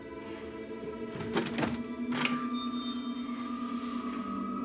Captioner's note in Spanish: Sonido al abrir la puerta